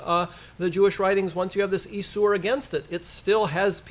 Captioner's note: foreign language